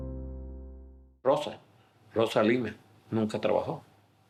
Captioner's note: speaking Spanish